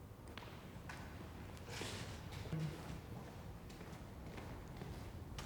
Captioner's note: faint footsteps thumping